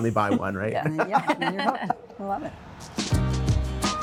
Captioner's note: all laughing; cheerful music